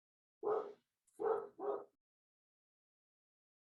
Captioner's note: dog barking